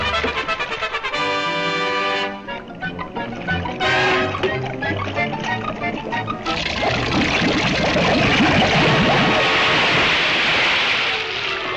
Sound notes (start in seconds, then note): 0.0 triumphant music; 2.6 liquid bubbling; 3.1 suspenseful music; 6.4 liquid sloshing and hissing